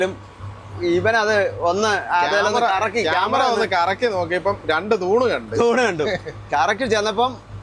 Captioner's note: drone propellers